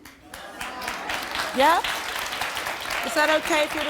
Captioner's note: audience applauding